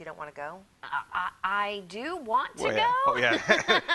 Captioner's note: laughs